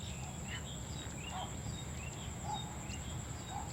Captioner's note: birds chirping